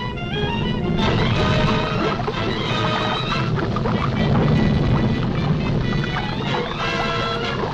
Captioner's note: dramatic music continues; volcano roars